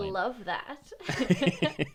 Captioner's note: both laugh